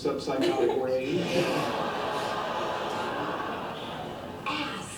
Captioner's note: audience laughter